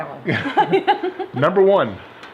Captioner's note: laugh